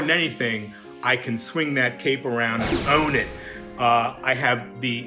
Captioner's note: rocket blasts